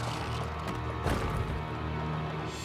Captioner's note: changelings growling